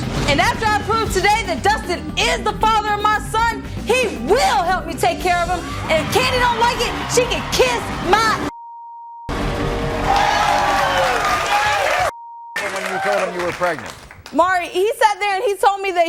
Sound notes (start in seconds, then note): 9.3 audience cheering